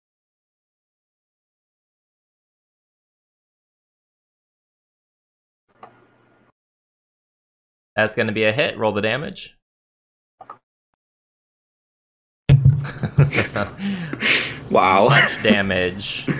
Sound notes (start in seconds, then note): 12.8 laughter